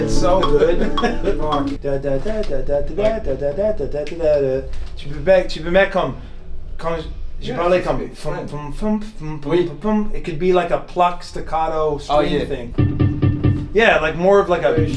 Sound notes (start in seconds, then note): 1.9 humming; 8.2 humming